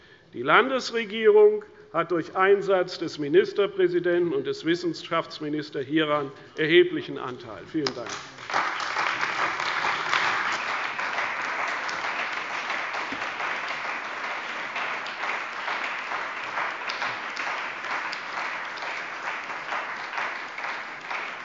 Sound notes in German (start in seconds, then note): 7.7 Beifall bei der CDU, dem BÜNDNIS 90/DIE GRÜNEN und bei Abgeordneten der FDP